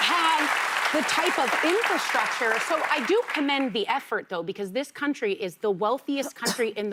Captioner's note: applause